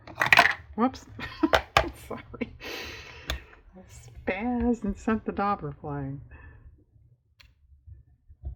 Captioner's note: laughs